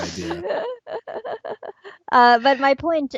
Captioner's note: laughter